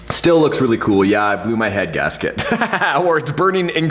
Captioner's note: laughter